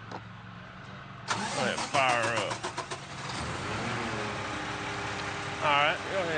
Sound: engine sputtering

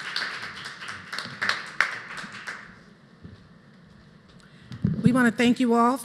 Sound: applause

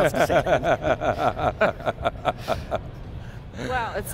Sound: both laugh

